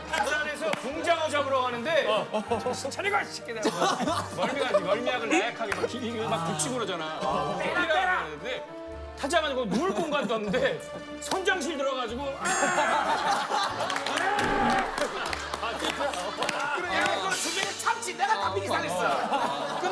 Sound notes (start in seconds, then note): 14.2 violent vomiting